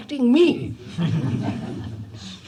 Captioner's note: laughter